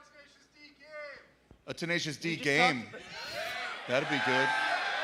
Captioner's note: cheers and applause